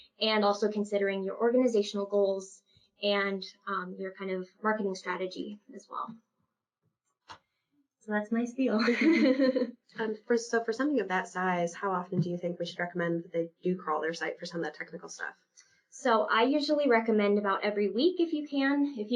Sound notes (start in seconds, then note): 8.8 laughs